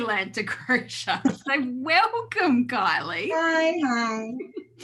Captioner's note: laughing